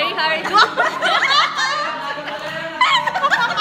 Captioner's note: laughs; more laughter